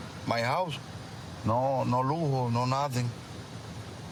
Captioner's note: speaking spanish